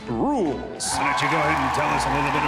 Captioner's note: crowd cheering